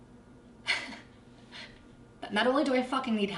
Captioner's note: laughs